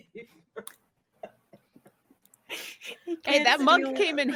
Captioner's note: laughs